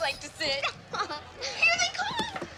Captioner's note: laughs